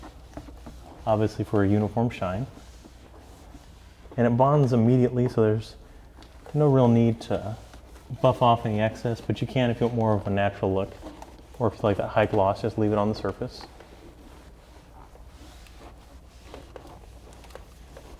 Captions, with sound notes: obviously for a uniform shine. And it bonds immediately, so there's no real need to buff off any excess, but you can if you want more of a natural look or if you like that high gloss just leave it on the surface. (scratching)